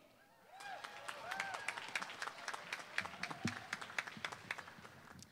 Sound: applause

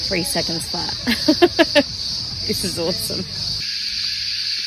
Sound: laughs

